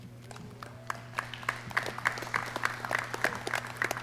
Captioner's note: clapping